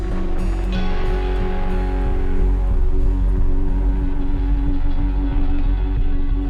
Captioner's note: thunder